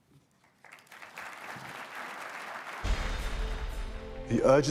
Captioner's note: applause